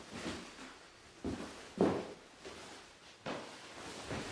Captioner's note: fabric rustling